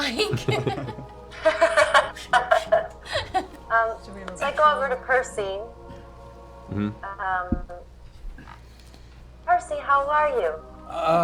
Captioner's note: laughs